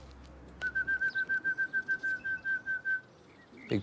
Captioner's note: fluiten